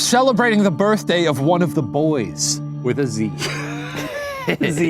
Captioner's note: laughs